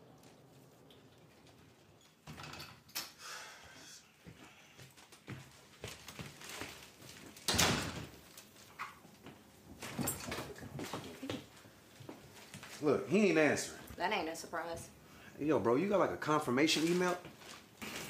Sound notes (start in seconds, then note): 1.8 door opens; 3.1 L sighs